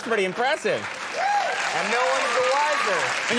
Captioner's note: audience clapping